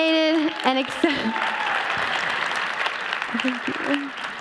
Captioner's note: applause